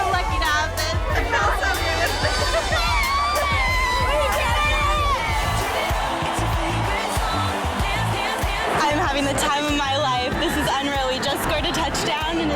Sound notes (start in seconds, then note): 5.8 crowd cheering; 5.8 upbeat cheerful music